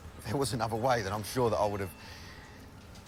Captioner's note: none